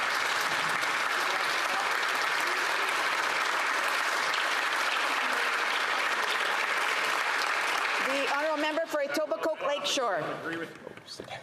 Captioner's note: applause